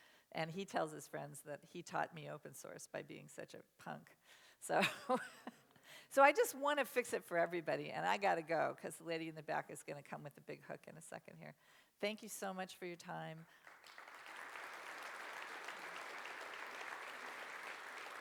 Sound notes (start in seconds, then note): 13.6 applause